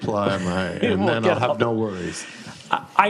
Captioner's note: laughs